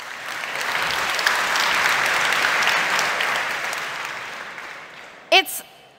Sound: applause

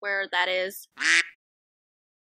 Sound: quack

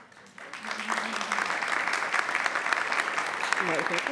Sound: audience applauds

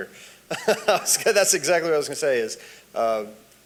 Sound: laughs

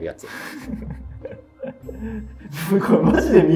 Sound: laughing

